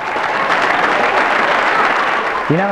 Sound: applause

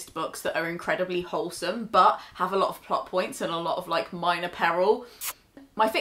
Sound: kiss

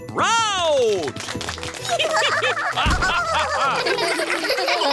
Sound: applause; all giggling

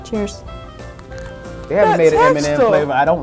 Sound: crunch

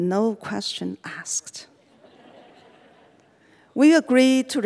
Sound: audience laughing

